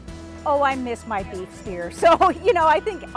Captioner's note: laughing